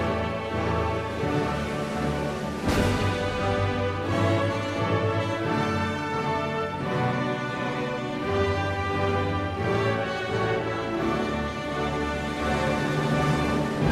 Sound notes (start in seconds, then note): none